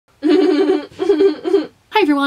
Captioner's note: sound of laughing